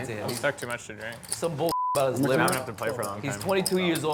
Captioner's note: beep